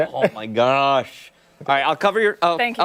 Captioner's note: laughter